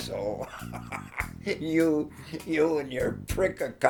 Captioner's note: laughs